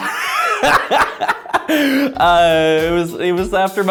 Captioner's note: laughs